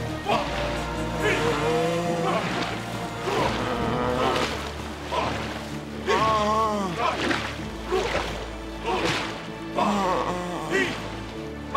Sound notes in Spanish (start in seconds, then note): 1.1 Gimiendo